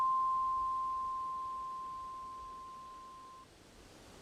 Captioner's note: bell sound